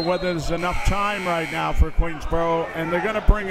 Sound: buzzer ringing

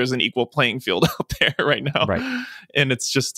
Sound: laughing

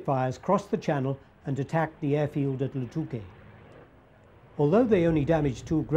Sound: speaking foreign language

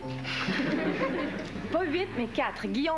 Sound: Rires

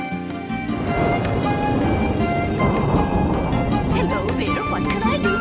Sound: thunder

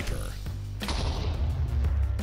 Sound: explosion

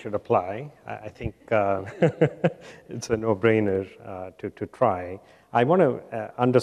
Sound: chuckles

